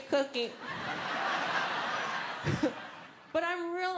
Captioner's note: audience laughing